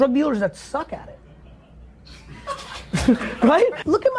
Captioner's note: laughs